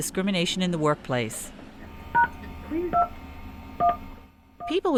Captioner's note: phone dialing beeps